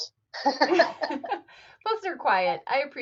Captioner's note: chuckle